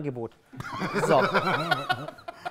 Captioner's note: Lachen